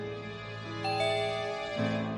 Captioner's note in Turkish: Kapı zili